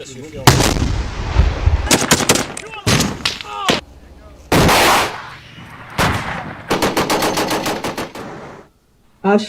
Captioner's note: gun shot firing sound